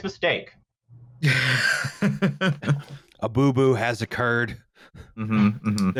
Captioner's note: laughs